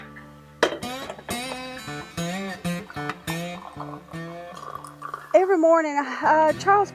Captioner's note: coffee pouring